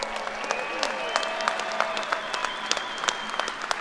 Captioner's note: applause